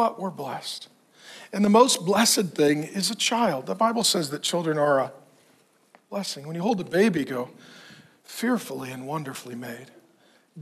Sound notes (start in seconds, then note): none